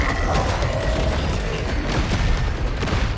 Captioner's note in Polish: pomruk